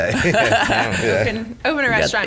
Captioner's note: group laughs